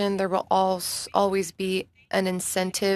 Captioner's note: speaking in French